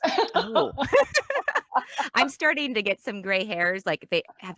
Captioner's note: laughs